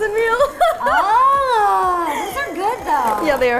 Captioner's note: laughs